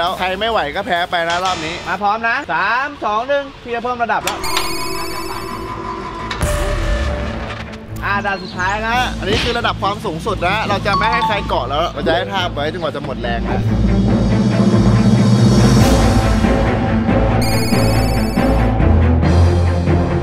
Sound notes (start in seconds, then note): 4.6 machine moving; 6.5 tense music plays; 13.5 orchestral music playing